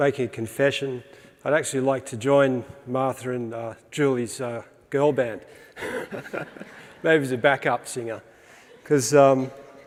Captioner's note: laughs